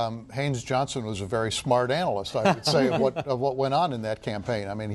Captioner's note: laughter